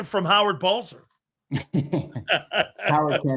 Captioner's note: laughing